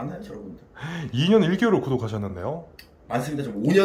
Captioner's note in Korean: 놀람